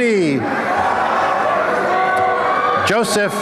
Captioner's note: applause and cheering